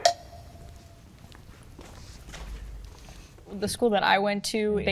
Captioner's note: feet stomping